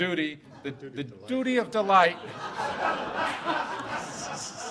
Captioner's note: laughter